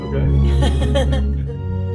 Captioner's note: laughter